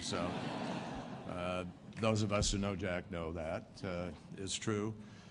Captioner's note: laughter